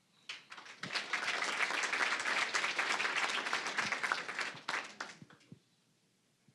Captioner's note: applause